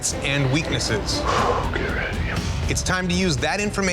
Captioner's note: sighs